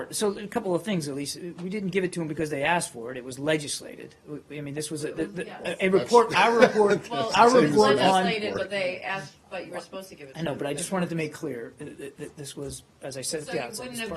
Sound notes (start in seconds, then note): 6.4 laughter